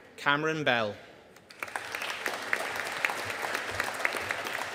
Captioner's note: audience applauding